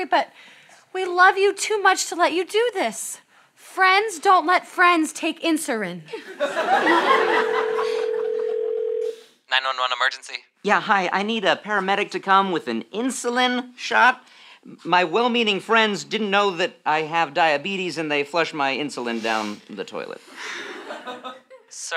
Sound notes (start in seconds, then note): 6.9 phone rings